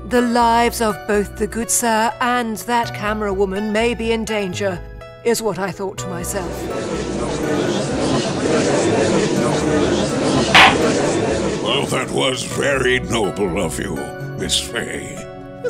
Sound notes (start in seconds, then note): 6.8 gallery chattering; 10.5 gavel slams!